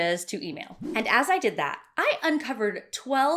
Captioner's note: swishing